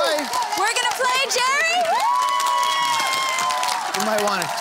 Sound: cheering

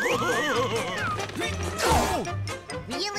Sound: laughing; grunting

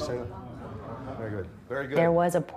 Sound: crowd murmuring

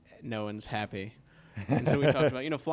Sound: chuckles

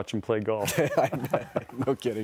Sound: laughter

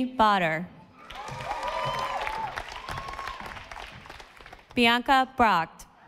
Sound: audience applauding

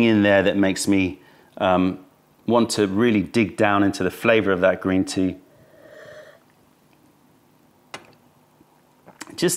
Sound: sips tea

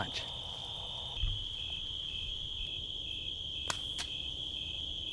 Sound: crickets chirping

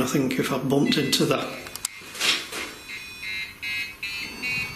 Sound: REM Pod chimes

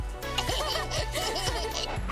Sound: laughing

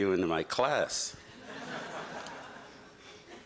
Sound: laughter

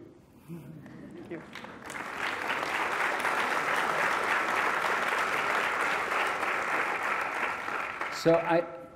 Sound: applause

